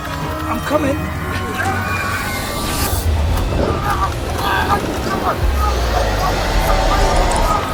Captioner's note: dramatic music; Tommy shouting